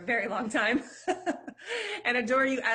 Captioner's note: laughter